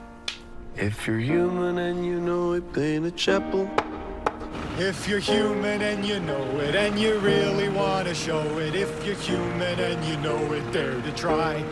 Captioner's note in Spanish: clac, clac; tap, tap